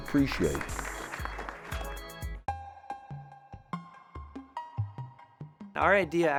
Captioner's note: applause